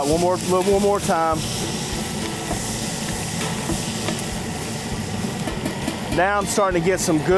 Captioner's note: sizzling